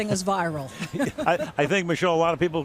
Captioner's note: laughs